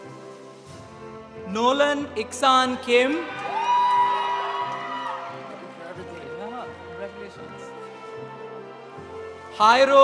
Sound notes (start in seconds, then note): 3.1 audience applauding; 3.2 audience cheering